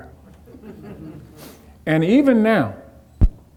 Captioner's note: audience chuckling